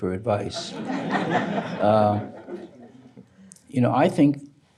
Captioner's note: audience laughing